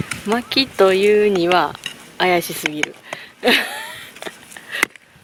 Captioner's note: laughs